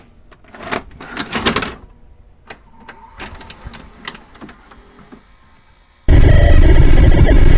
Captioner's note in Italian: suono distorto